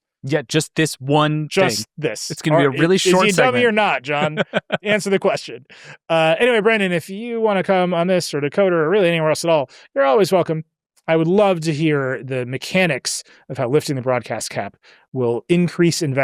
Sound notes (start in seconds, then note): 4.0 laughs